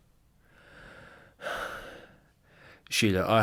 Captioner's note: sighs